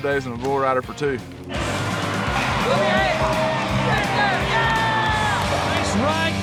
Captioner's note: crowd shouting